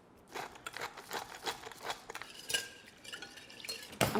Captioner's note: grinding pepper